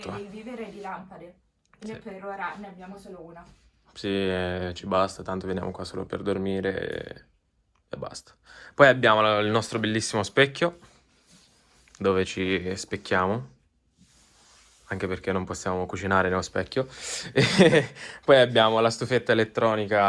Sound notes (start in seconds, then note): 17.3 haha